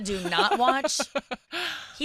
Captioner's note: laughing